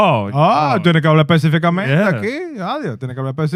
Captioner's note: speaking In Foreign Language